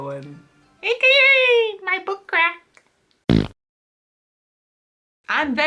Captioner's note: fart noise